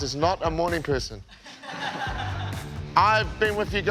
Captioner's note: laughing